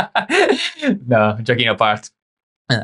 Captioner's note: laughing